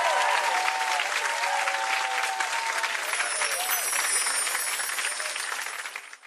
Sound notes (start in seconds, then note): 3.0 chiming